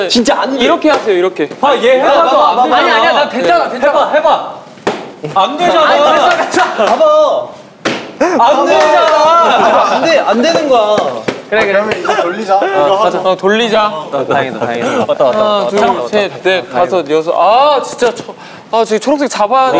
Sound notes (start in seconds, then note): 8.9 argh; 16.4 sigh